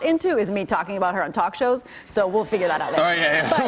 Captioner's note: laughter